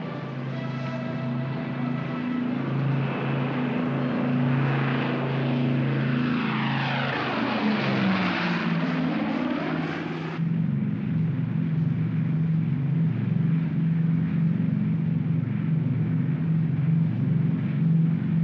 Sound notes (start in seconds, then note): 0.2 aircraft rumbles in distance; 0.2 band plays; 5.0 aircraft roars; 10.3 aircraft rumbles